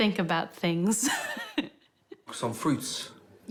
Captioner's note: laughing